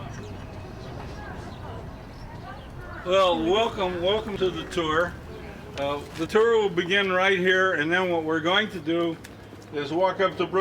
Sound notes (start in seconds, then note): 1.0 street sounds and muffled chatter